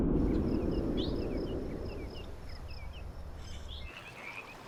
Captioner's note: birds calling; animals calling